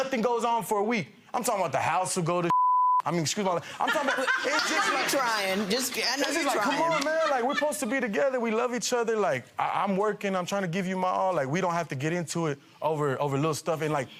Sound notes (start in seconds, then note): 2.5 beep; 3.7 audience laughing